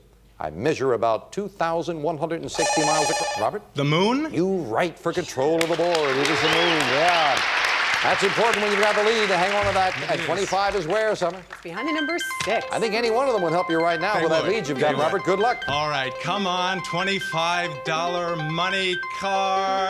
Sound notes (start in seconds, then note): 2.5 beep